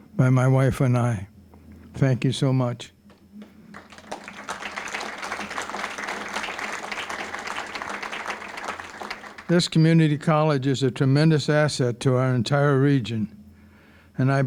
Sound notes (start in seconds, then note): 3.4 applause